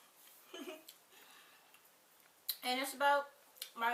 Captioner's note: laughs